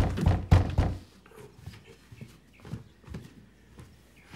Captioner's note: banging on door